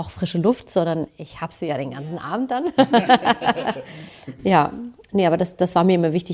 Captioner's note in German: gelächter